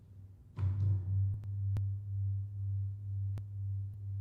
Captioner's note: gongs sound